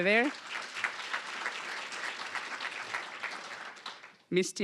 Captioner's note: applause